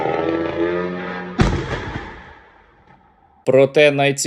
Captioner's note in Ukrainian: вибух